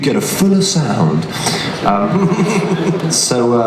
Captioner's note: laughter